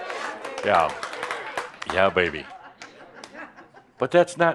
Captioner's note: some applause and a few chuckles